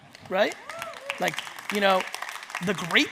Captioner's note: audience cheering